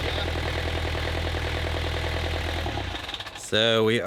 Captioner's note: boat engine roaring